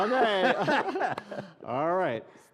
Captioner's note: laughing